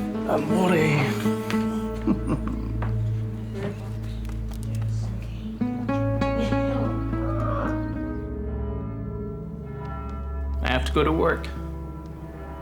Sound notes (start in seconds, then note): 1.9 chuckling; 8.4 church bell tolling